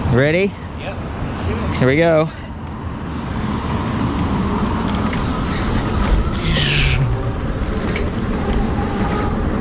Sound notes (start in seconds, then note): 3.5 electric motor revs up; 6.4 makes a zooming noise